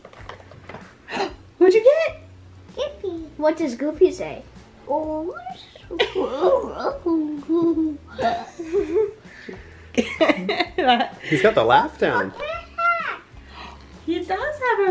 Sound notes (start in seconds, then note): 1.6 gasps; 5.8 laughs; 7.2 laugh